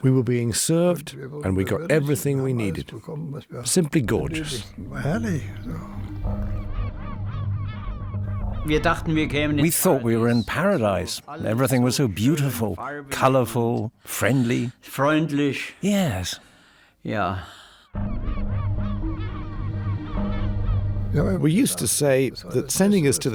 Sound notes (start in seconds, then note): 7.1 birds squawking; 17.9 intense music